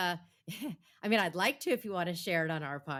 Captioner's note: chuckles